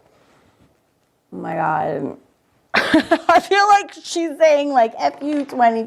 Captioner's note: laughs